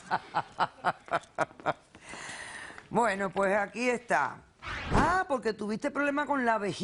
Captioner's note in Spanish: Risas